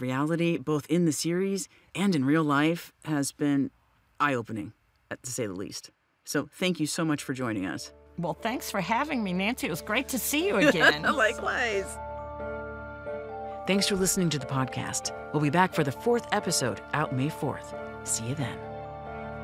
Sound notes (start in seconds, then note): 10.6 chuckles